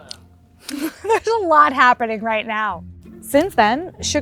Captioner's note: laughs